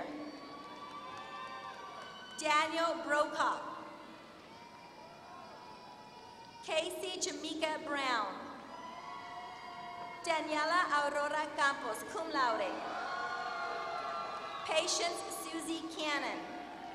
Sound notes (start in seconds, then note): 0.2 applause; 3.7 applause; 12.8 applause